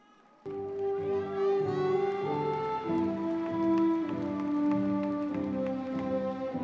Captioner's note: crowd cheering; lively music